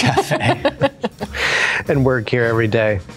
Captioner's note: chuckling